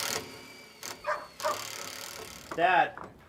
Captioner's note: machine drilling; dog barking